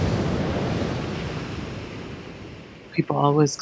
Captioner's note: waves surging then crashing